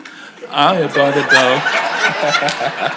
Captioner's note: audience laughs